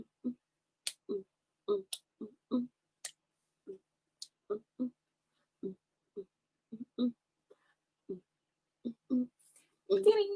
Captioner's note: hums the beat of a song